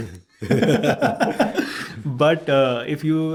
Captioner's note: both laughing